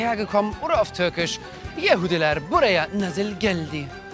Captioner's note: speaks Turkish